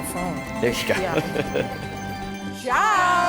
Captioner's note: chuckle